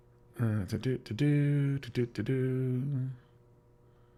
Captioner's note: humming of sorts